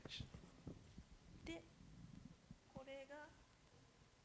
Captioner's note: speaking japanese